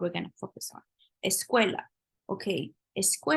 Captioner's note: spanish